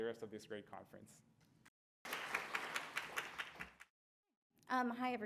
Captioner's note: applause